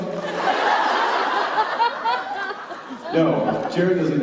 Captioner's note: laughter